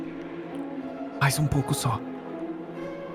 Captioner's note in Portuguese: sussurra